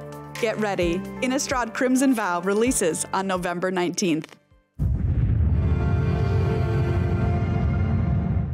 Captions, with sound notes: Get ready—Innistrad: Crimson Vow releases on November 19. [Whooshing Sound]